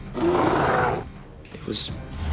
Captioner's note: bear growling